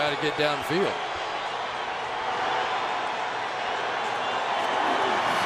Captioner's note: crowd cheering